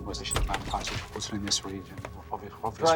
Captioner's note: door creaks